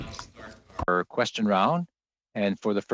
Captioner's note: speaking French